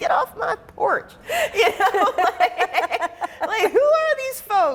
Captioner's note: people laughing